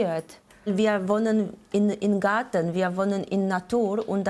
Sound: with an accent

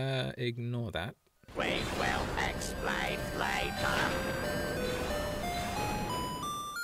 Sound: robotic voice

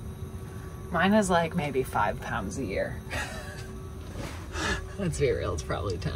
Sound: laughing

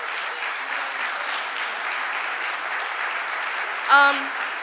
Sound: audience applauding

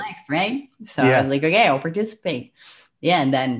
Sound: breath

